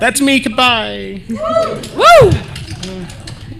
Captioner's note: applause